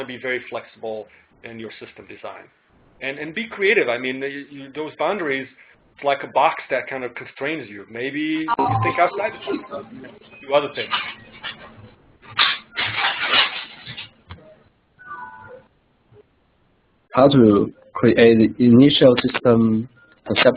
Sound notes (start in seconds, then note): 12.3 external noise rattles